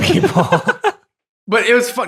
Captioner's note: laughing